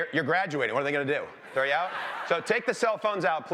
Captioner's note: laughter